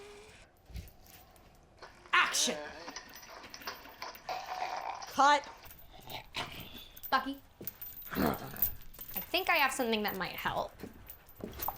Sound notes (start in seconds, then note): 3.9 zombie walter gagging; 8.1 zombie walter grumbling